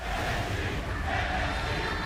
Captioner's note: fans chanting